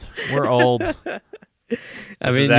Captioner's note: laughing